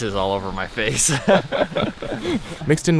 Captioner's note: both laugh